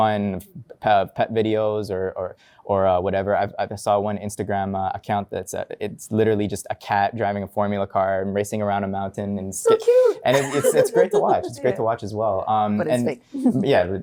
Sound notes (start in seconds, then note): 9.7 laughing